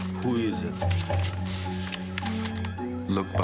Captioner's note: none